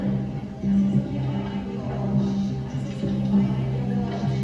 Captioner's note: background echo